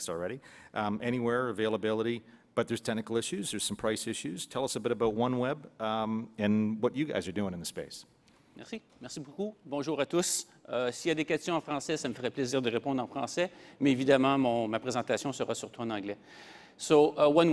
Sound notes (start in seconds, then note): 13.5 French speaking